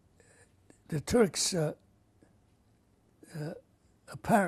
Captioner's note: pauses for 3 seconds